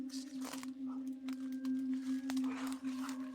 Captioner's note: rustles